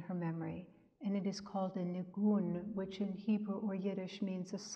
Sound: speaks in Hebrew

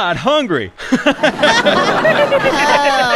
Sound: all laughing

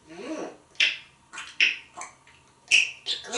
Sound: more tongue clicking & smacking

